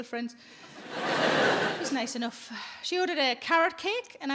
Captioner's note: audience laughs